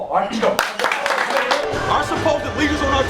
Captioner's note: clapping